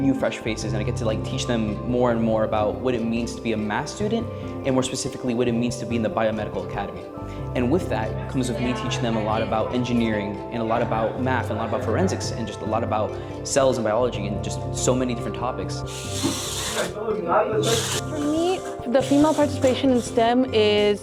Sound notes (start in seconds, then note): 15.8 machinery whirring